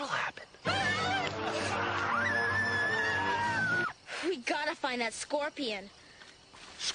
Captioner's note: screaming